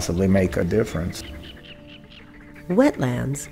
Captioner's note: water bird sounds